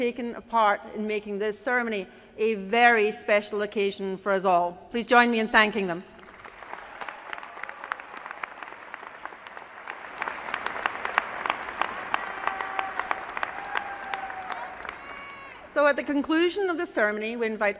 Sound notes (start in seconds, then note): 14.8 applause